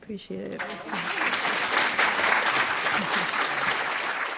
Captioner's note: applause